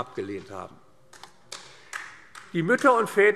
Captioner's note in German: Beifall AfD